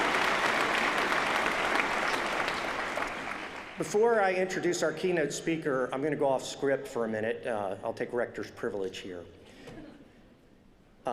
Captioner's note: applause